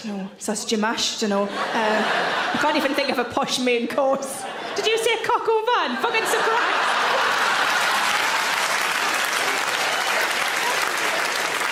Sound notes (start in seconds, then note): 5.9 audience laughs and applauds